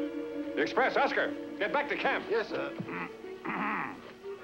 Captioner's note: clears Throat